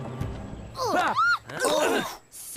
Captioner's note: All the Gophers grunting except Heather